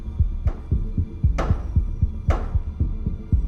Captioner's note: three knocks with a baseball bat